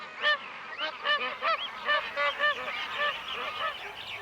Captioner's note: birds calls